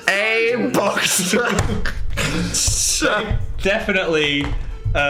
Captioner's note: Dan and Phil laugh